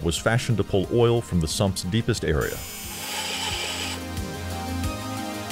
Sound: tools buzzing

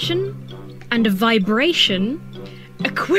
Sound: laughs

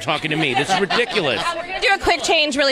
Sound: all laughing

